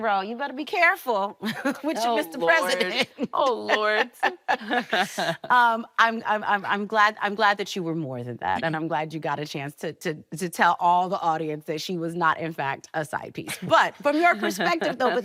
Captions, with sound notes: "you better be careful -with your Mr. President." [laughing] -Oh, Lord. Oh, Lord. Um, I'm-- I'm glad that you were more than that and I'm glad you got a chance to-- to tell all the audience that she was not in fact a sidepiece. But from your perspective though,